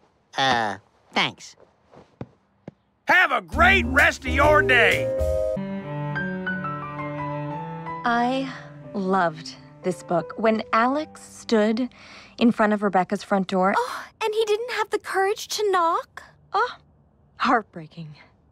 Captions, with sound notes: Uhh... Thanks. HAVE A GREAT REST OF YOUR DAY! :D I... loved this book. When Alex stood in front of Rebecca's front door- *s i g h* And he didn't have the courage to knock? Ah! Heartbreaking...